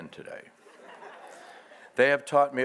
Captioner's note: audience laughs